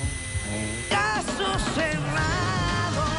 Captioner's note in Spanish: Sonido al soplar